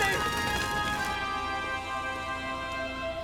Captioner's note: bell